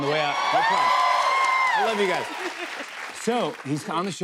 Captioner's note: cheers and applause